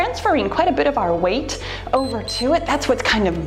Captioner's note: timer beeps